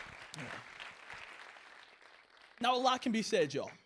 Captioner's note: applause